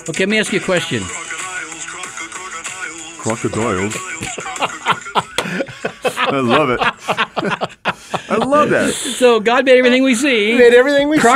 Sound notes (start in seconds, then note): 5.3 men laughing